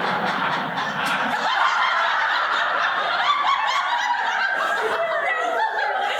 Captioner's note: all laugh